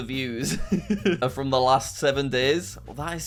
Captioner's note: laughs